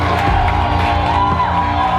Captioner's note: cheering